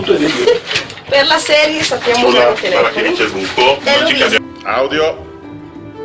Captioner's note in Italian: Risata